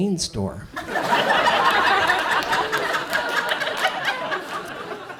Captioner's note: audience laughs